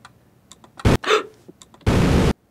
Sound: beam roars; gasps; beam roaring

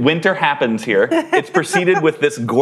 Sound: laughter

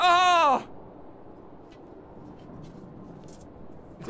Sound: betrayed silence

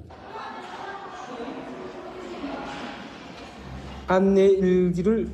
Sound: students chattering; speaks in foreign language

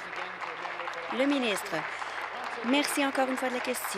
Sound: applause

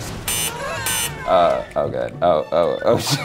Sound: beep

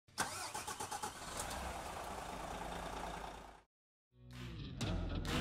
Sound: engine starting; diesel engine idling; upbeat country music

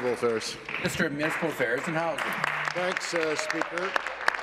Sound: applause

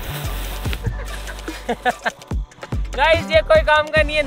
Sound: laughing

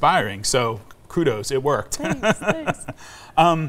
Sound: laughs

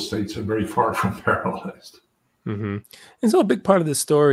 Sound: laugh

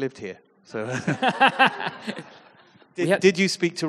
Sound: audience laughs

